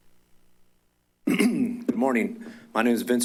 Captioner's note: clears throat